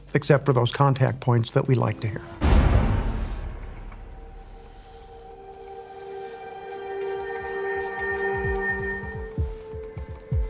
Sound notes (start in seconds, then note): 1.4 suspenseful music; 3.6 mechanism clicking